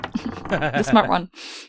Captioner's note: laughter; dice thunks